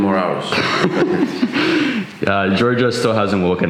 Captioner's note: laughter